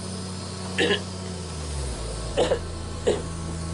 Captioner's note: coughing